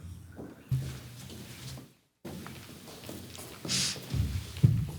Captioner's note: footsteps pattering